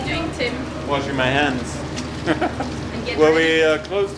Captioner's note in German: lacht